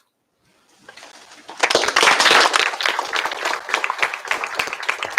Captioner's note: applause